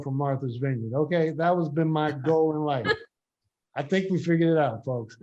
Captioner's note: group members laugh